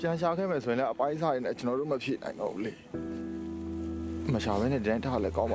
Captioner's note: speaking foreign language